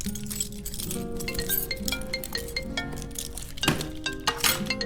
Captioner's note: phone rings